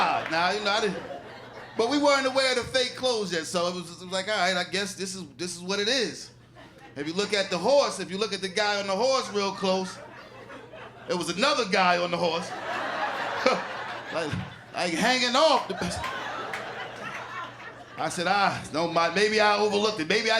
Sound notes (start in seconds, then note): 15.5 laughter